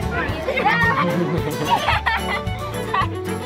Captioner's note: children chattering excitedly; children cheering and laughing